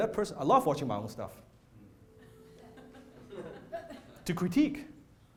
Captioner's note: laughter